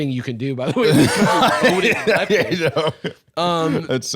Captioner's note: laughing